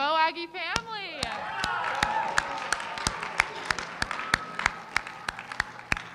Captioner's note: applause